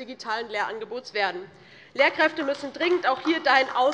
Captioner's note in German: Beifall DIE LINKE